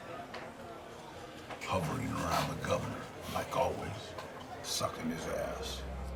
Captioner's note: none